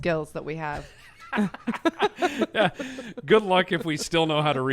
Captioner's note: both laugh